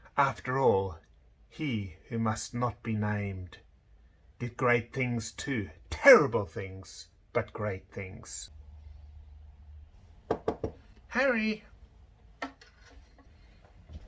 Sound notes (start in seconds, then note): 10.2 door knocking